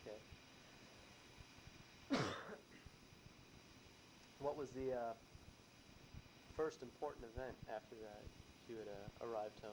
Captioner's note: coughs